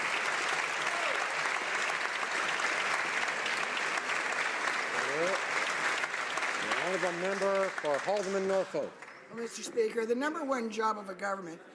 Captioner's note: some Applause